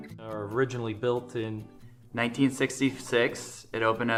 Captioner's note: male Voice